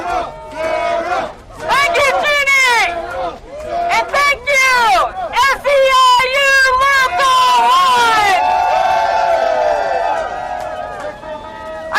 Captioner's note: applause